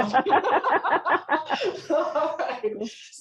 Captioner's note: everyone laughing